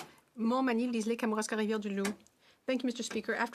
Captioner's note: speaking French